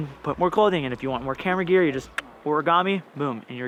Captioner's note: clicks tongue